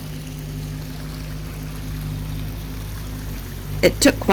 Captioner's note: rushing water